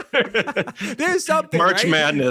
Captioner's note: laughing